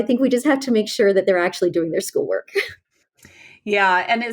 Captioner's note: laughs